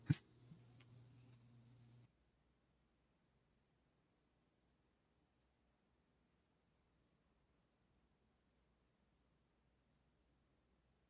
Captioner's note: silence